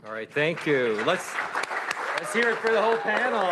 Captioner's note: applause